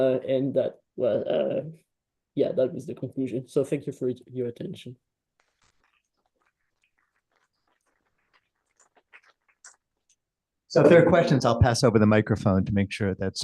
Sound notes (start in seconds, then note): 4.9 applause